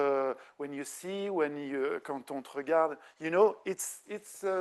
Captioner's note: speaking French